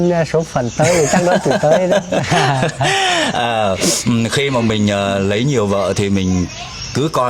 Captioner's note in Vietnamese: tiếng cười